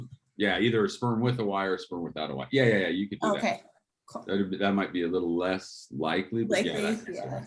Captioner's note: professor and student talking back and fourth